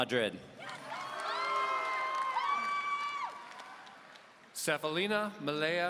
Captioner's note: audience cheering